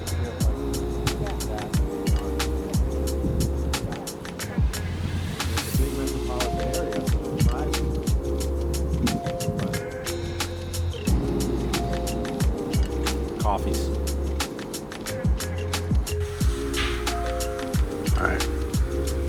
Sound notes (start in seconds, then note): 16.6 sounds of shower running in background